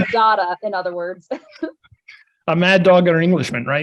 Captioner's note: chuckles